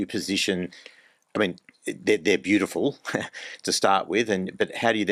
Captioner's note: laughs